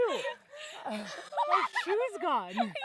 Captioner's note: laughs